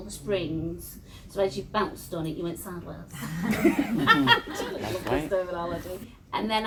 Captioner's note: laughs